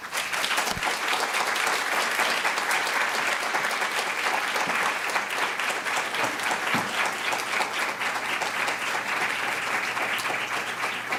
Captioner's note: applause